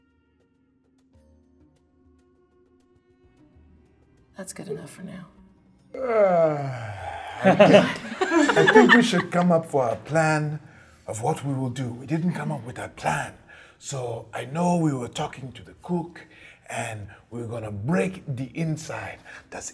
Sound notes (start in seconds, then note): 5.9 yawning; 6.7 all laughing